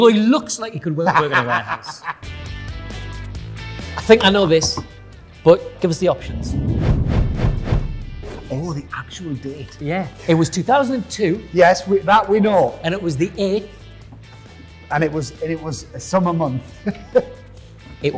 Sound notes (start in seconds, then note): 1.0 Ant laughing; 6.0 whooshing; 16.8 laughing